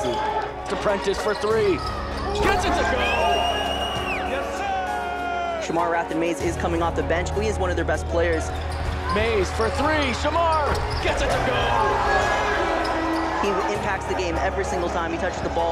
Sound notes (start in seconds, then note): 2.8 crowd cheers; 2.9 whistle blows; 11.7 crowd yelling